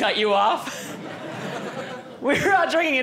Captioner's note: audience laughing